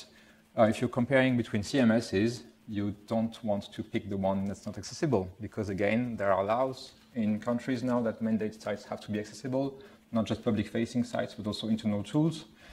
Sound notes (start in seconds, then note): none